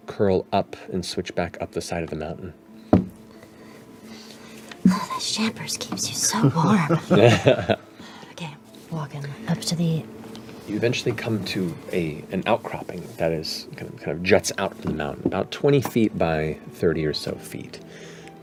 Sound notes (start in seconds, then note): 6.4 laugh